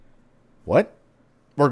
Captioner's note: intercom